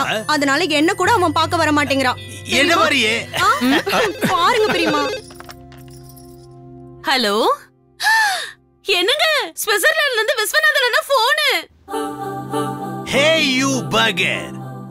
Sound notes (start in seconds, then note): 3.6 phone rings; 8.0 gasps